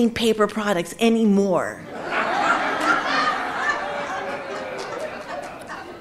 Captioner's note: audience laughing